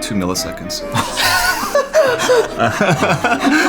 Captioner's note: laughing